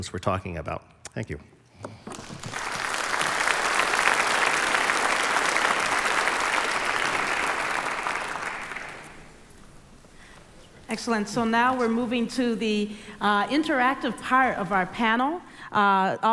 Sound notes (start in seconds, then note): 2.0 applause